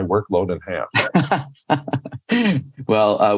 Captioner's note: laughter